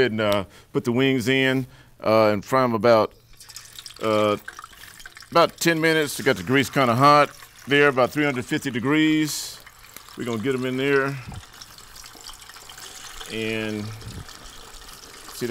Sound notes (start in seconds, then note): none